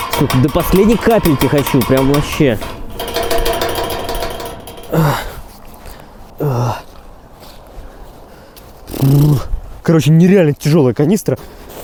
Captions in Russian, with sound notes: Все до последней капельки хочу прям, вообще. [тяжелое дыхание] Короче, нереально тяжелая канистра.